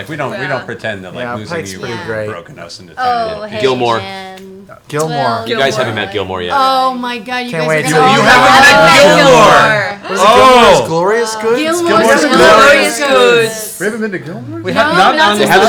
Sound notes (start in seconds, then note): none